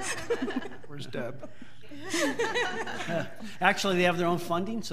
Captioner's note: audience laughing